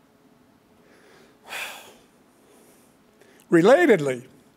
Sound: sighs deeply

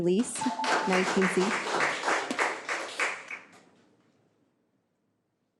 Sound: audience applauds

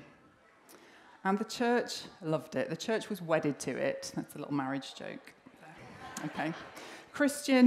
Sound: laughter

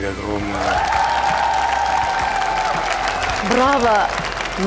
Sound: applause

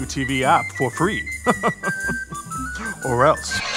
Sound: chuckles; guillotine chop

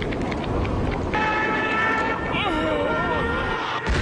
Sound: elderly Man sounds & blowing wind effects; crash sound

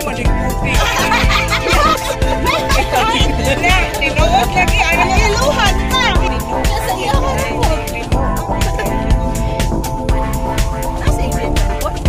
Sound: laughing

